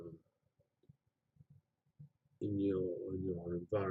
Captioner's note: pause